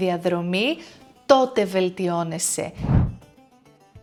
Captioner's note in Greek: ήχος εισαγωγής διαφάνισης